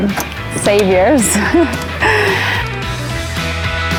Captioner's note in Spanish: risas